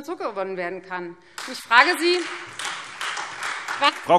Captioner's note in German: Beifall Freie Demokraten, vereinzelt SPD und AfD